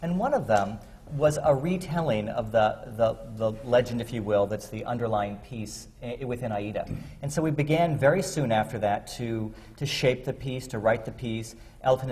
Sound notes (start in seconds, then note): none